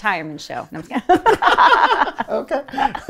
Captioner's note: laughing